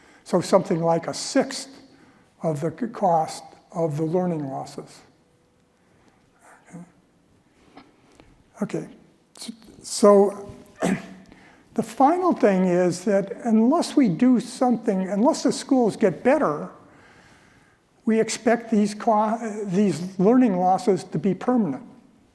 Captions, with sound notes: So something like a sixth of the cost of the learning losses, okay? So [COUGH] the final thing is that unless we do something, unless the schools get better, we expect these learning losses to be permanent.